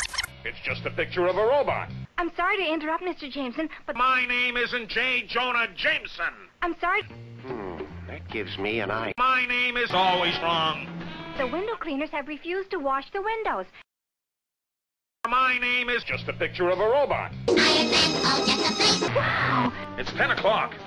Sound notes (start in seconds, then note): 19.0 in "What the heck" tone